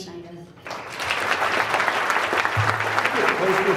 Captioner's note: audience applauds